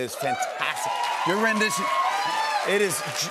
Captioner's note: cheers and applause